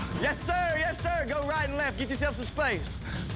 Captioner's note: grunting